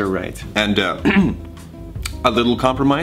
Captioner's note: clears throat